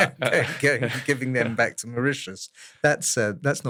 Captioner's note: laugh